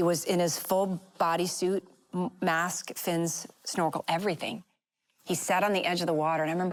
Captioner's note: none